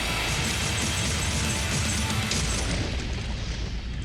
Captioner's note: gun shots